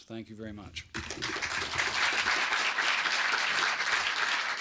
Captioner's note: applause